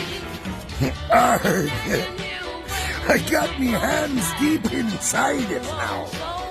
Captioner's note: pirate voice